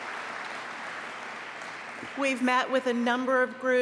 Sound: applause

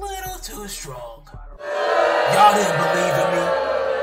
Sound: crowd booing

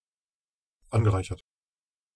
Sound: fast Pronunciation

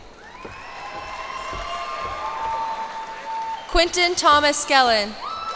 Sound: cheers and applause

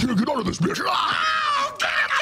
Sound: Satan groaning

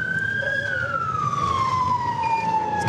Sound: sirens wailing

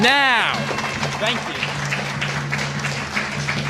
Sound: applause

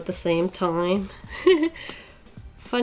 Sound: giggles

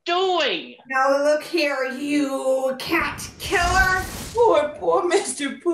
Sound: whoosh

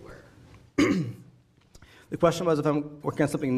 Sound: clearing throat

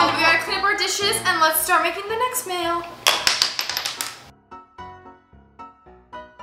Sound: dishes clanking

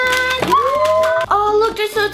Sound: cheering

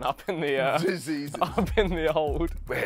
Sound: laughs

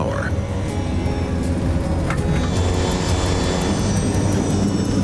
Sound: engine roaring

